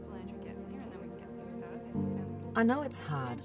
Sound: quiet chatting

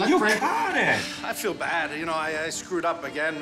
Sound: gasping

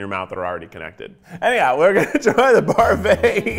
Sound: laughing

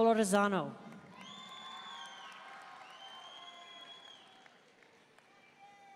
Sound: audience cheering and applauding

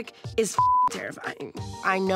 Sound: beep

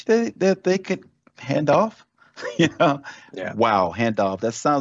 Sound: laughs

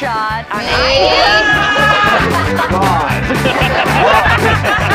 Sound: laughter

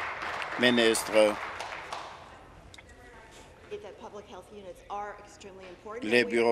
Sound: applause

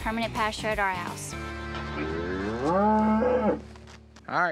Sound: cow grunts

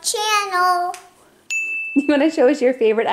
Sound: bell dings

